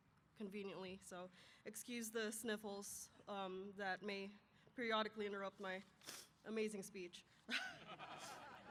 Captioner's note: brief laughter